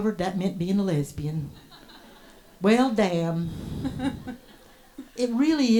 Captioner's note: audience laughs